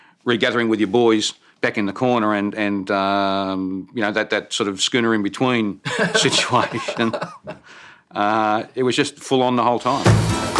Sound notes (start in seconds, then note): 5.8 laughs